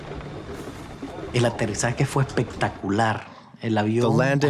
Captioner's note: speaking in Spanish